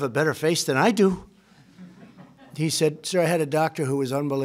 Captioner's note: laughter